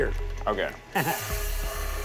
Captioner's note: laughing